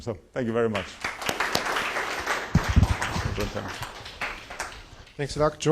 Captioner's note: applause